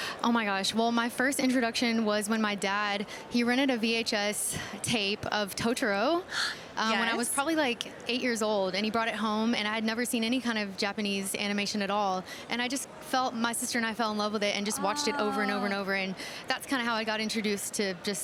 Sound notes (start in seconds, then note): none